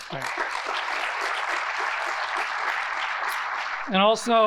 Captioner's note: audience applauding